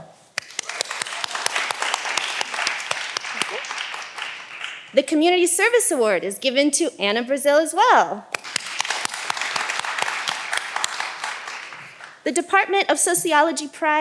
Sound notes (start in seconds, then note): 0.3 all applauding; 8.3 all applauding